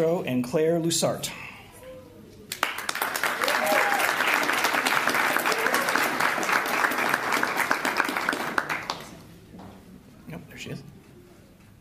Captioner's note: applause